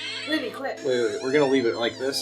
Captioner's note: door creaking